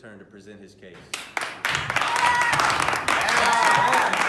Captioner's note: cheering